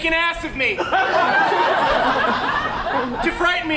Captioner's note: audience laughs